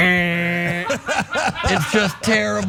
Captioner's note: laugh